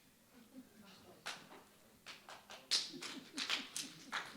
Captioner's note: scattered clapping